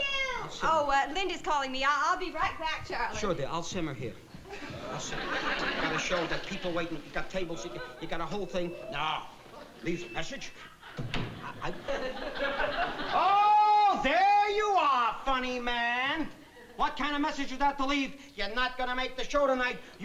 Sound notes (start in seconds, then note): 10.9 door opening